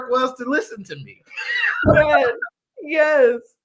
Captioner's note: laughter